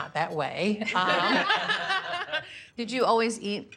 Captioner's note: laughter